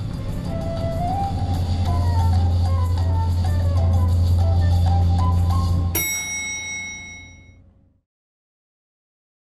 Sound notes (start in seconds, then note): 5.9 ding